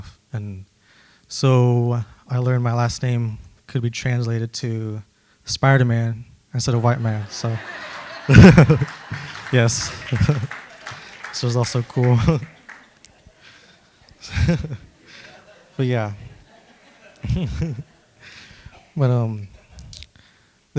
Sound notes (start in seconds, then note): 7.6 laughter, applause; 14.0 laughs; 17.0 laughs